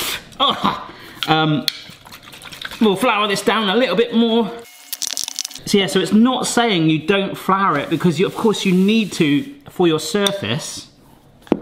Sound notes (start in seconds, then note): 1.8 rolling pin sloshing